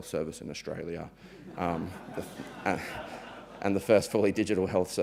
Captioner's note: audience members lightly laughing